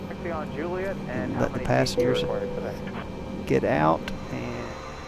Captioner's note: chime